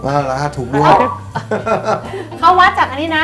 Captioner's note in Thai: หัวเราะ